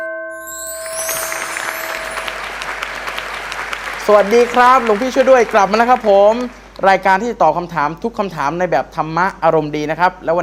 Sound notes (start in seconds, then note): 0.5 applause